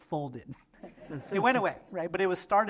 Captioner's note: laughter